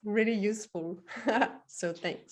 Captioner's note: laughs